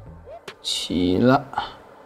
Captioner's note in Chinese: 电流